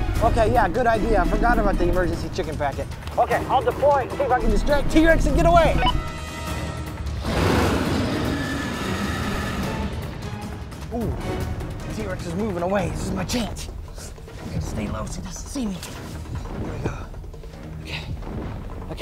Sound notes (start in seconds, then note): 7.2 T-rex roaring; 9.6 intense music